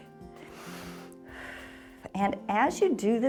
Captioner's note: exhales